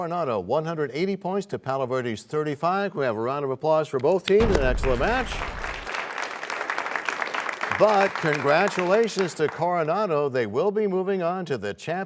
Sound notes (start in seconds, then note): 7.6 applause